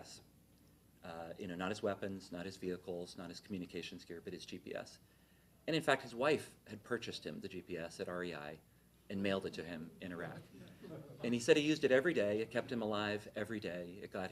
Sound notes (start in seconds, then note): 10.6 laughter